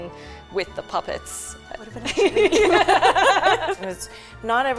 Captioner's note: laughs